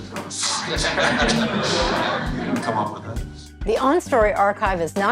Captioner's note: audience laughing